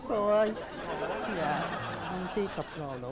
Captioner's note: laughing